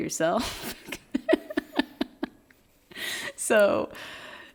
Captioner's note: laughing